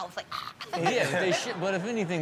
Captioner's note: audience laughs